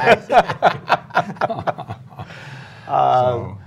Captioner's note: laughter